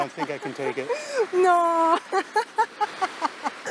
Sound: laughs

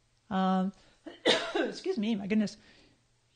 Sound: coughing

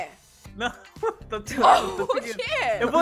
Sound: laughing

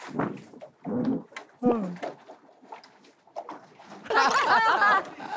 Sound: the unexpected yawning

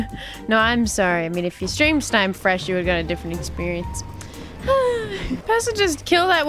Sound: sighs

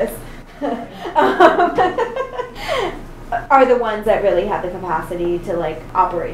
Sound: laughs

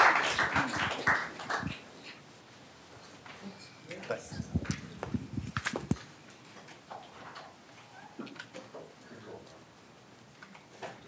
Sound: applause

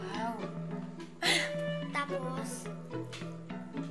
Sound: chuckles

